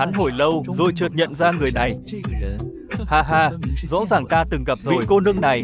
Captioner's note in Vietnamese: tiếng cười